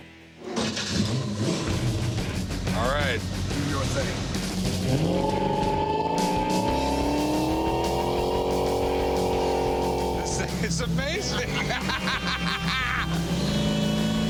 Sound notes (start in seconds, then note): 0.4 starts engine; 11.3 laughter